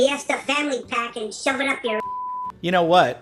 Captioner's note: beep